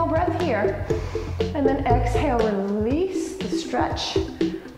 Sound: inhale

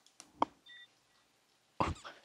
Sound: Agency's name brand coffee drinking sound ASMR GO!; laughs

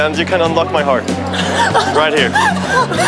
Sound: girl is laughing

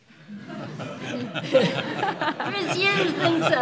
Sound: laughing

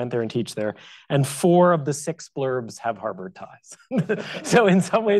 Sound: chuckles

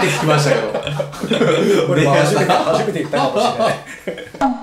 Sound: laughs

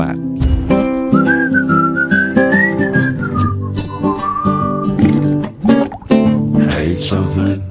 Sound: whistling

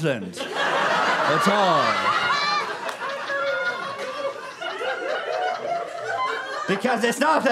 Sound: audience laughter

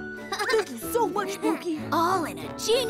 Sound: chuckles

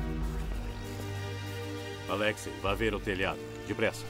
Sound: speaking russian

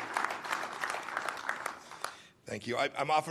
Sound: applause

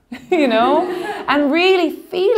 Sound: laughing

